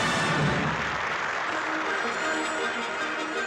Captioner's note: applause